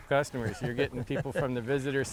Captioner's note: laughs